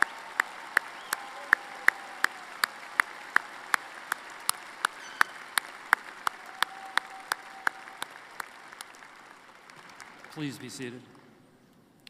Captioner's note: applause